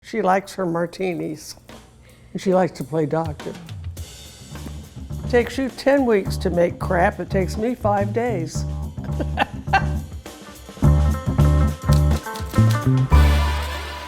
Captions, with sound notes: - She likes her martinis and she likes to play doctor. Takes you 10 weeks to make crap, it takes me five days. (laughing) (upbeat jazzy music)